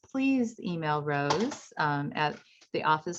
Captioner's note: keyboard clanks